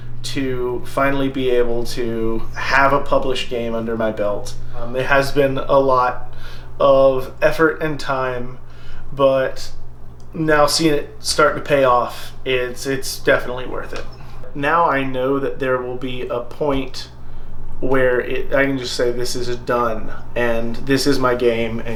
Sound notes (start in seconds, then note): none